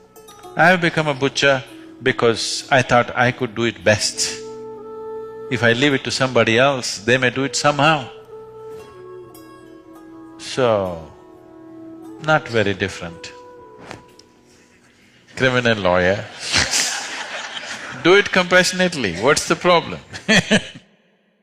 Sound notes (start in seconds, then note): 16.2 laughter; 20.6 laughs